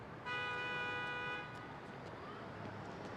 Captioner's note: car honking